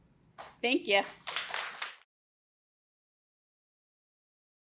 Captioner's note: applause